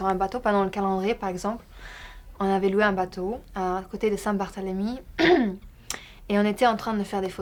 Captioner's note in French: raclement de gorge